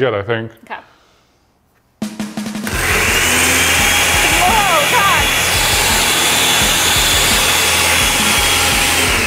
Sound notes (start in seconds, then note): 2.6 blending buzzing